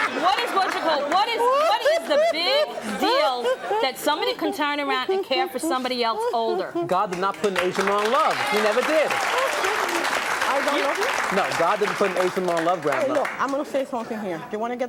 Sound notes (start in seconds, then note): 0.3 laughing; 9.9 audience applause